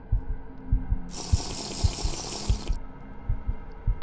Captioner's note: sipping